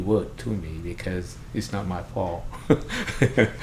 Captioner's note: laughs